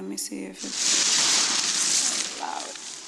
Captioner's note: paper rustling